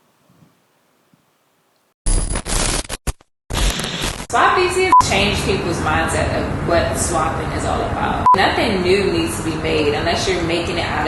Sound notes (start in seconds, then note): 2.0 static buzzing